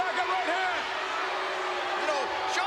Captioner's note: spectators booing